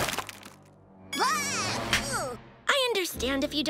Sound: screaming

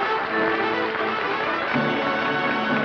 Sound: applause

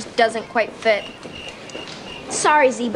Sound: crickets chirping

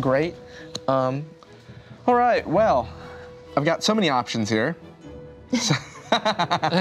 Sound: laughs

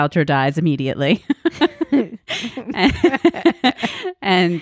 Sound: laughs loudly

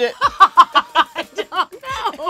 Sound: both girls laugh

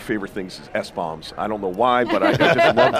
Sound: group laughs

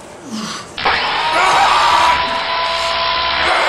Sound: screams

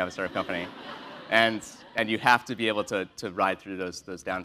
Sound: laugh

